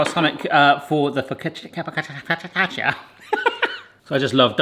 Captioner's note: laughs